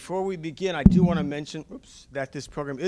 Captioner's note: microphone interference